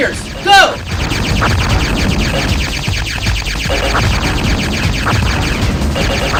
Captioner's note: video game sounds